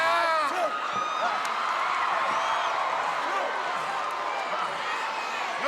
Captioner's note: audience cheering